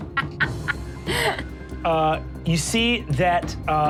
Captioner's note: Sofia laughs